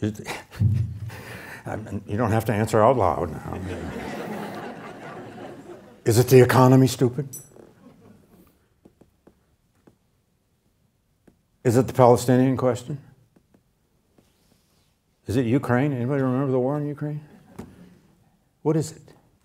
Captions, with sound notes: You don't have to answer out loud. (group laughing) Is it the economy stupid? Is it the Palestinian question? Is it Ukraine? Anybody remember the war in Ukraine? What is it?